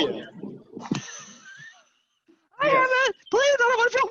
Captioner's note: chuckling